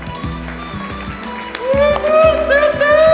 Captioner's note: applause